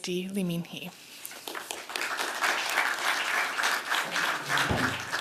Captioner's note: applause